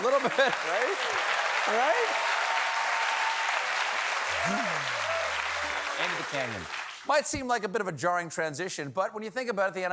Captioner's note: applause